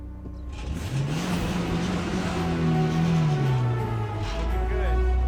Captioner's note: engine revs; dramatic music